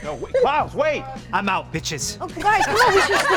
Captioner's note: cast laughing